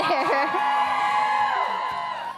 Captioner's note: crowd cheers